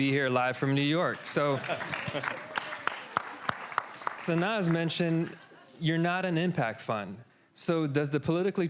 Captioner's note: applause